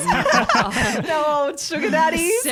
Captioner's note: laughter